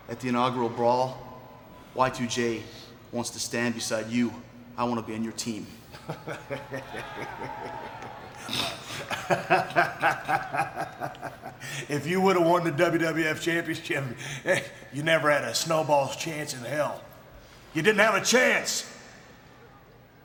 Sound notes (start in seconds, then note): 6.3 laughing